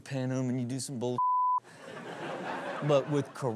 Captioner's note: audience laughs